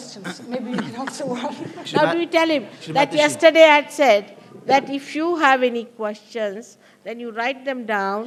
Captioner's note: shree mataji laughs